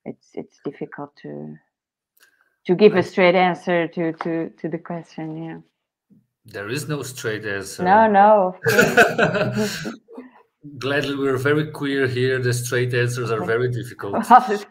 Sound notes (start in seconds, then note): 8.6 both chuckles